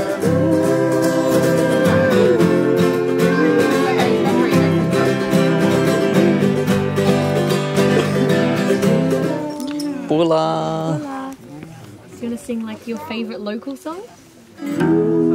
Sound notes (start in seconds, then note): 0.2 upbeat music; 9.5 speaking in foreign language; 14.6 peaceful music